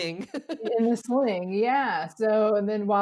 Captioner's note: laughs